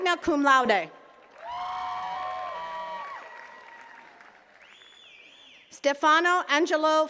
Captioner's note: attendees cheering and clapping